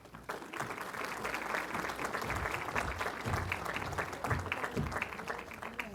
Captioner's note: applause